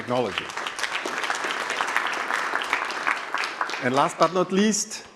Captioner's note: applause